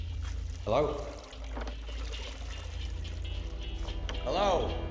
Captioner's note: muffled music in headphones; water sloshing